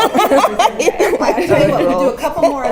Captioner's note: laugh